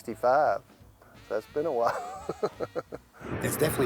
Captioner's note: laughs